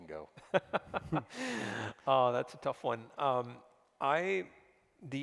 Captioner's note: chuckles